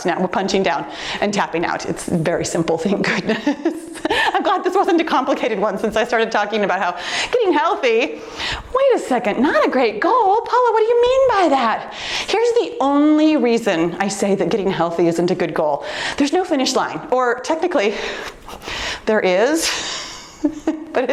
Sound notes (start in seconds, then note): 3.1 laughs; 20.1 laughs